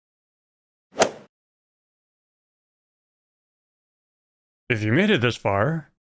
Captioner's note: golf ball hit sound